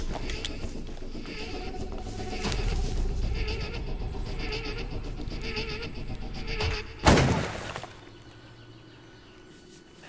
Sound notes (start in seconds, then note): 0.6 music intensifies; 7.1 gun firing